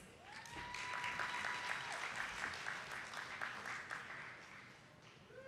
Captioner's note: attendees clapping